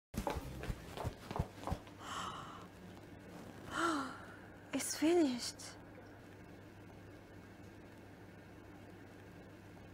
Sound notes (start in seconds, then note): 3.7 sigh